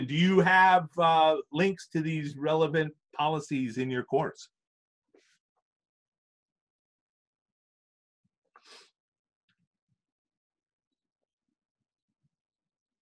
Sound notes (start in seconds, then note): 9.0 silence